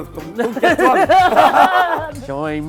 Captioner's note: laughing